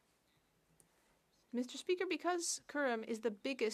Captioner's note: speaking French